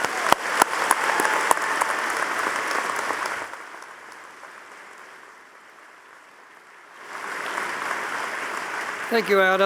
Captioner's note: audience applauding